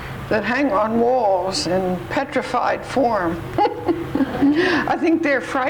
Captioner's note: laughs